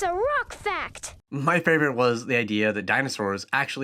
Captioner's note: voiceover